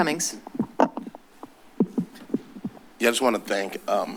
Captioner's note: clattering